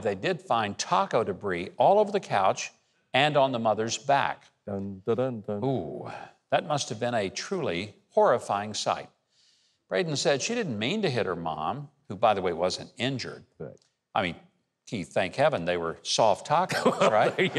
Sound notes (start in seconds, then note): 4.7 imitates suspenseful music; 16.7 chuckles